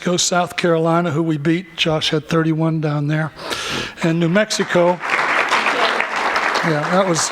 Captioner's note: applause